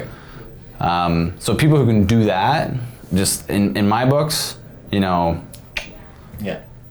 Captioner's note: tongue clicking